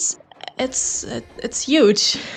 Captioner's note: gasps